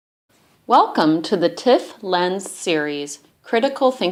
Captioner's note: voiceover